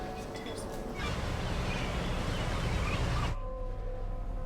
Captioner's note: seagulls calling; ominous droning music